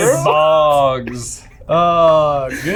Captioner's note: laughing